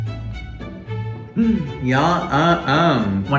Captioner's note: gasps